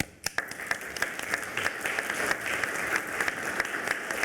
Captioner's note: everyone applauding